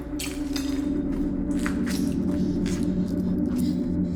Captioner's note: debris rattles; Abby pants